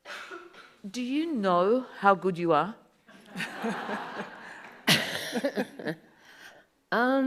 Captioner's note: audience laughs